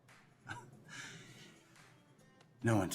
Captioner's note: Mikey chuckles